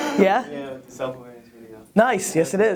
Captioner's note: background chatter